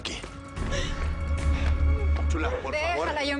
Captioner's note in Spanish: Sollozos de Déborah